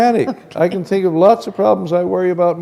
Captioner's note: chuckle